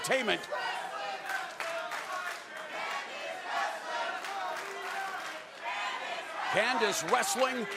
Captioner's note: crowd cheering